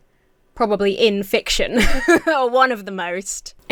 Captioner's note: laughs